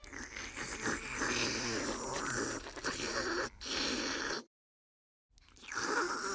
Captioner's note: slurping; slurping continues